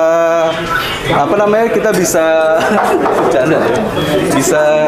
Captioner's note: chuckles